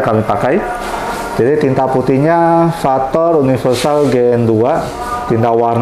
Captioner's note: printer machine sound